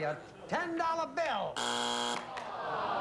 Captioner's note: buzzer